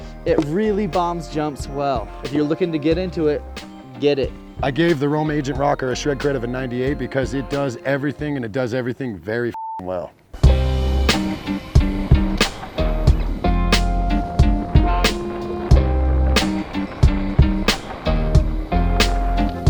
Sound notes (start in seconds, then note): 9.5 beep